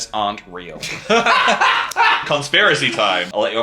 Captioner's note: laughing